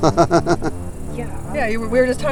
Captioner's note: people laughing